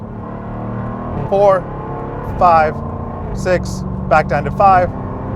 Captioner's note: engine roars